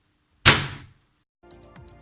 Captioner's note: boom